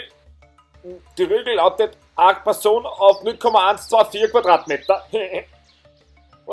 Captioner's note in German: lacht